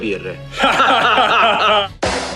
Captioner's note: laughing